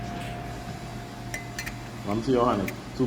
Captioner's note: metal clinking